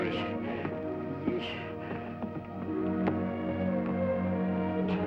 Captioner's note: mumbles